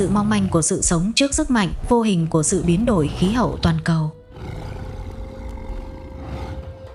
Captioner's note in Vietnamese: khịt mũi